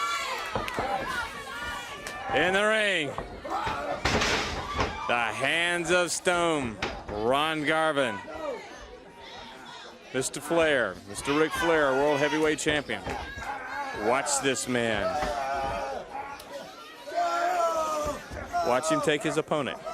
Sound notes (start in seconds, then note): 3.0 crowd cheering; 4.1 crowd chatter; 10.2 crowd chatter